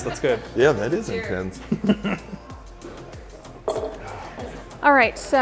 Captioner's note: glass thuds